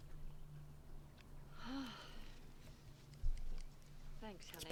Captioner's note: sighs